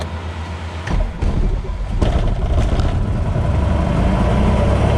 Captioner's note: plane engine roaring